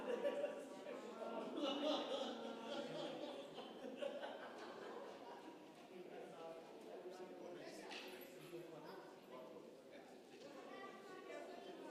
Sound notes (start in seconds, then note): 0.3 congregation member laughing; 6.2 congregation chattering